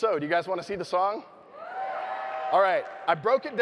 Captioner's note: audience cheering